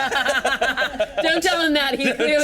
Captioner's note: teammates laughing